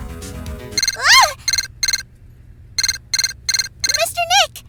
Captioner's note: Transceiver beeping, Pearl exclaims!